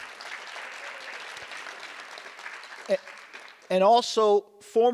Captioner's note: audience applause